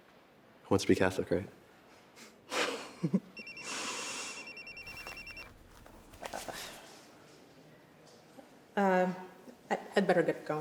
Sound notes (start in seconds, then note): 2.0 laughs; 3.3 phone ringing